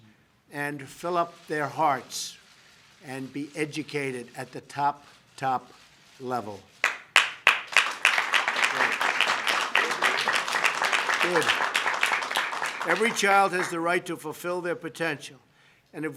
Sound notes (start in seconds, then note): 6.8 applause